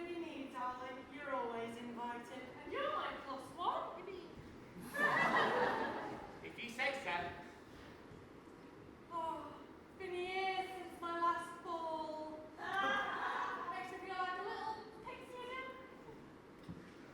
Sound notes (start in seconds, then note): 4.8 audience laughs; 11.4 audience laughs